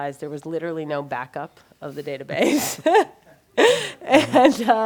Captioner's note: laughs